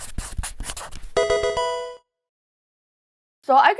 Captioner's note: marker scratching; electronic video game chime